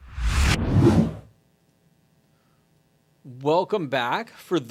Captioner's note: electronic wooshing